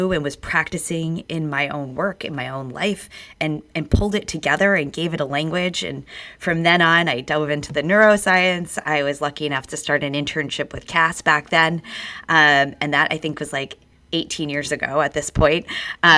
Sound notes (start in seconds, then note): none